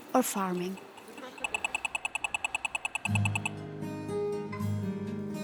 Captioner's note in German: Fußgängerampel piepst